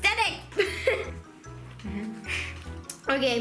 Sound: laughs

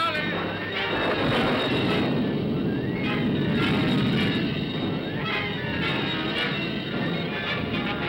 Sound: thunder rumbles; dramatic ominous music

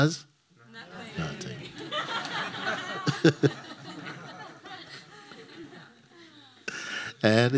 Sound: laughter

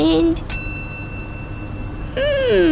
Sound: ding!

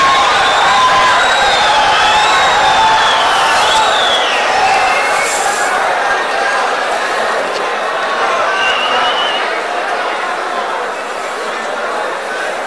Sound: wild applause and cheering for 22 seconds

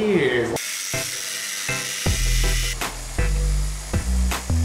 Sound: saw motor humming

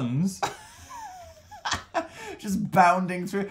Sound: Dan laughs

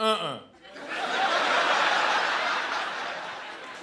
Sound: laughter

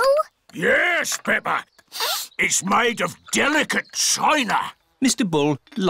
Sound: sniffs

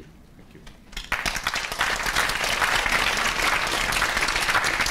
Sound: applause

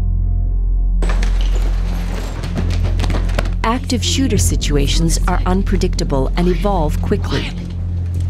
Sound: sound of footsteps running

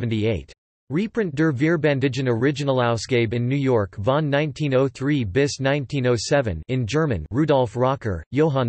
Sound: in German

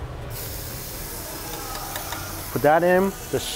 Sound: steak sizzles

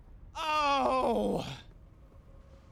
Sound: sigh of relief

